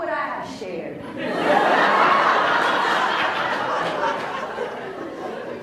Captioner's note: laughs